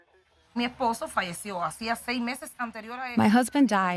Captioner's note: speaking Spanish